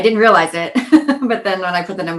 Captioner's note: laughing